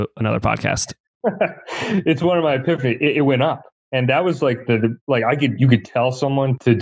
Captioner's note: laughs